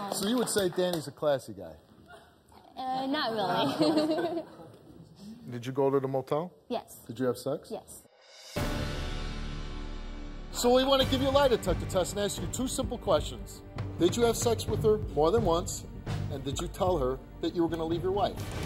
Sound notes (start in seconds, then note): 3.1 laughing; 8.6 dramatic music